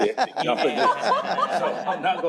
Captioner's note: laughter